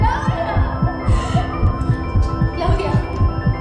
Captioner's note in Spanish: Latidos acelerados